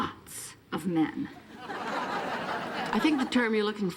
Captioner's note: audience laughing